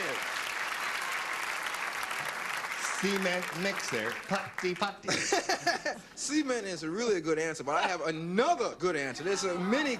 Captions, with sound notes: CEMENT IT IS. [CLAPPING] CEMENT MIXER. PUTTY, PUTTY. [LAUGHING] CEMENT IS REALLY A GOOD ANSWER, BUT I HAVE ANOTHER GOOD ANSWER.